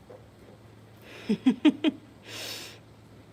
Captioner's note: laughing